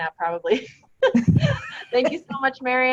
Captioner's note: laughter